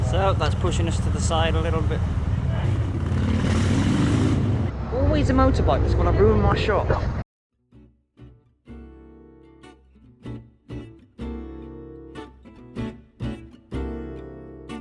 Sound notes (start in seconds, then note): 2.3 motorbike noise